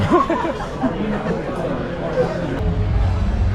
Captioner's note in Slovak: smiech